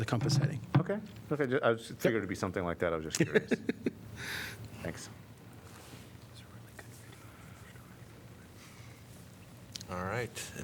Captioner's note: laughter